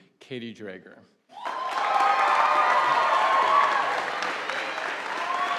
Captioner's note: audience applauding